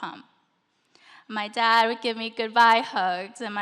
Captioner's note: none